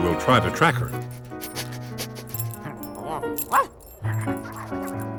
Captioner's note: sniffing and barking